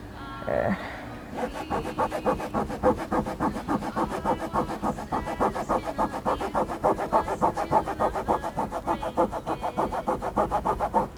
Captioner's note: scrubbing Noises